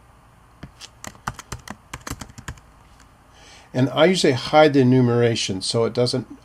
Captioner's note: typing